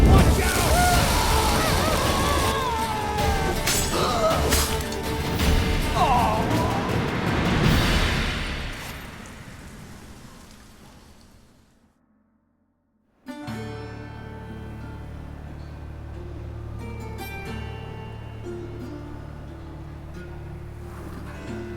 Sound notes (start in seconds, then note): 2.7 scream; 4.4 cries out; 6.7 groan